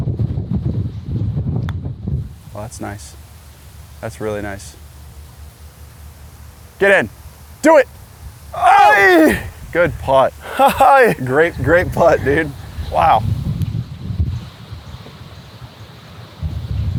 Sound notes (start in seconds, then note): 8.5 groans; 9.7 laughs